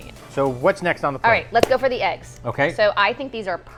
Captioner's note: claps